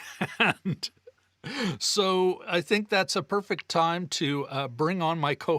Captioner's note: laughs